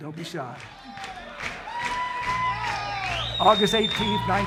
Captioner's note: audience clapping; audience cheering